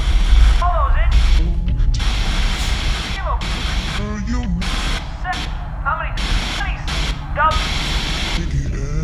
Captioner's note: frenetic TV static